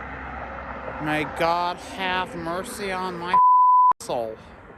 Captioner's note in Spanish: bip